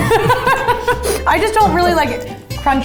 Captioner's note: laughing